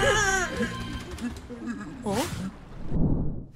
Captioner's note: whimpering